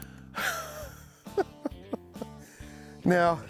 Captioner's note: laughs